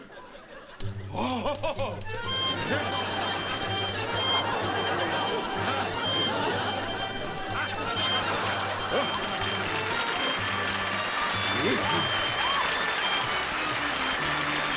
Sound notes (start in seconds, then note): 1.1 exclaims